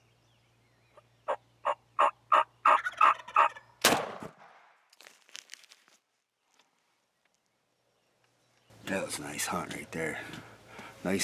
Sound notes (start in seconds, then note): 1.6 turkey gobbles; 3.8 rifle shoots